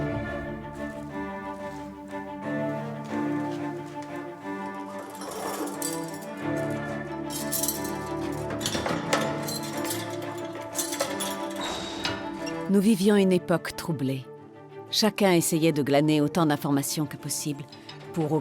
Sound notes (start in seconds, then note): 5.0 dramatic music continues; 5.0 keys clinking